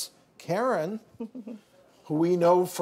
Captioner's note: Karen chuckles